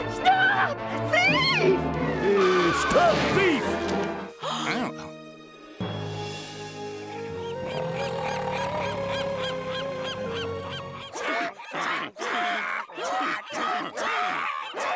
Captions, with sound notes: Stop! Thief! Stop, thief! [gasping] [quacking]